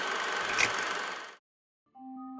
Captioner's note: projector tape cuts off